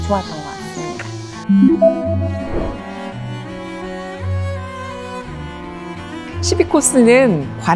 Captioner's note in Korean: 강조하는 효과음